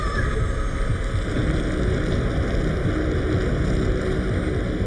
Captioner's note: ground rumbling